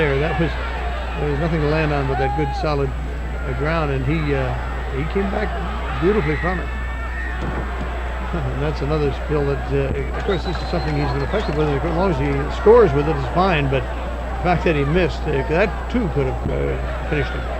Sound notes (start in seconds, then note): 0.6 chuckling; 3.1 participant shouting; 7.3 audience cheering; 7.3 wrestlers thudding; 8.2 chuckling; 10.5 audience cheering; 12.5 audience clapping